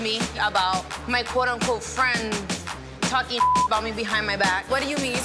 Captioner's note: beep